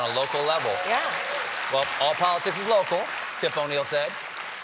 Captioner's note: applause